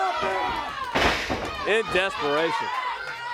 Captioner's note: crowd chatter